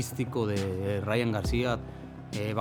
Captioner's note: none